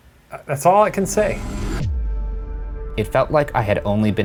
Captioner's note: dramatic whooshing